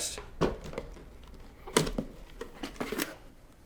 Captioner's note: boxes thudding